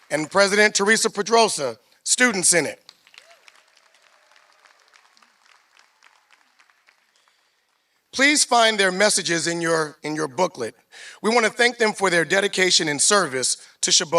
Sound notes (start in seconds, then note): 0.0 applause; 2.6 applause